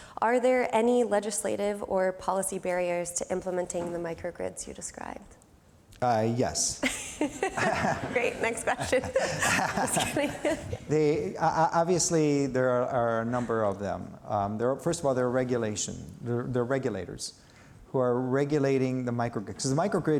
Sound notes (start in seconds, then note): 6.9 laughing; 9.8 laughs